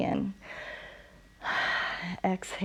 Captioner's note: inhales and exhales; exhales